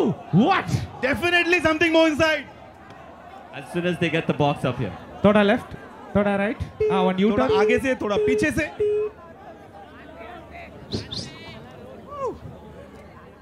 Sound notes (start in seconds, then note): 6.4 non-english speech; 8.8 non-english speech; 10.9 whistles